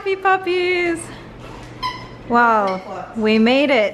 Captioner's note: toy squeaking